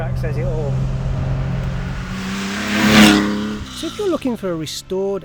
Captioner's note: car engine roars